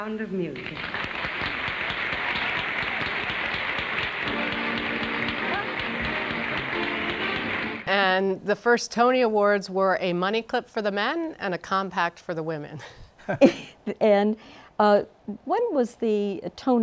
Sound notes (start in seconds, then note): 0.6 applause